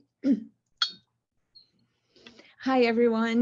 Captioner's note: clears throat